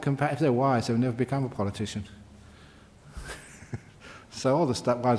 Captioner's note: chuckles